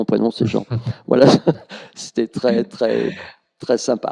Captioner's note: laughs